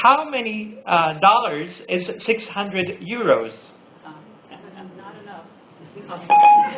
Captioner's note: Siri beep